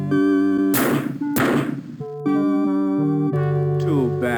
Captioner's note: gunshots